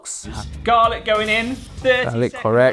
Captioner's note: oil sizzling